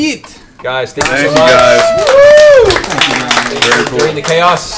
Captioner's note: cheering